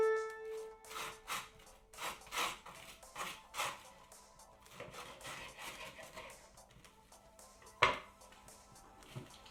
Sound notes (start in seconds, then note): 2.0 knife scraping